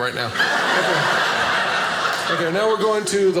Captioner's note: audience laughing